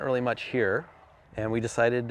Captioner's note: vehicle rumbling